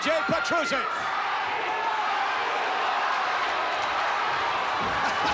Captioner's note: audience cheering